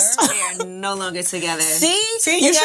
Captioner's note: chuckling